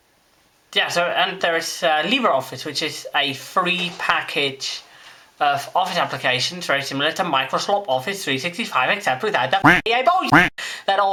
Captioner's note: quack